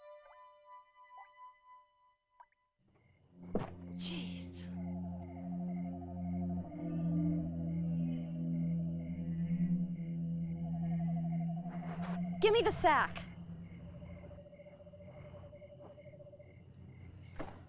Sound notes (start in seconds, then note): 2.9 water dripping; 6.3 suspenseful music